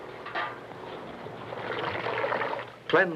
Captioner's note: water dripping